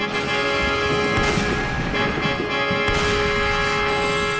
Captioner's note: rifle firing